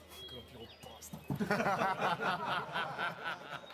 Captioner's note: all laughing